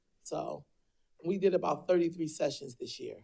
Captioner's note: none